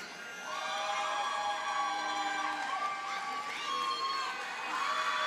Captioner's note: audience cheers and applauds